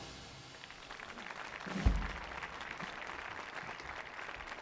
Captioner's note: audience applauding